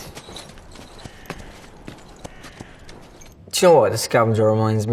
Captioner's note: crows cawing